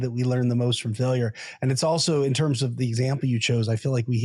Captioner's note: laughs